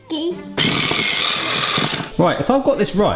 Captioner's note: electric mixer working